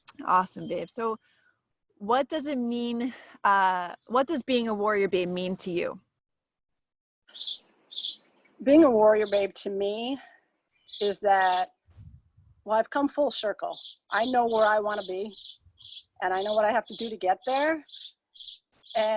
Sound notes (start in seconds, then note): none